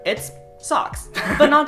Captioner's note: giggle